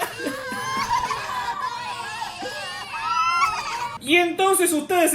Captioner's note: everybody cries traumatized